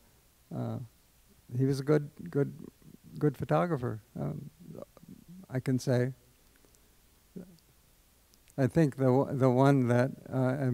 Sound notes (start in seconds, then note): none